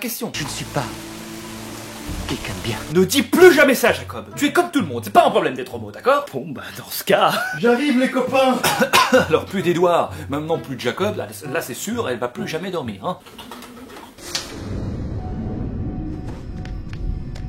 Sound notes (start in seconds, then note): 8.5 cough